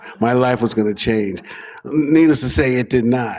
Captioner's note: laughter